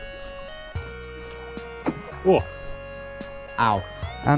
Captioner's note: stones splashing